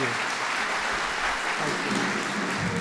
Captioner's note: applause